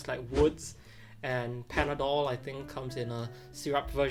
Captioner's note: graphic whooshes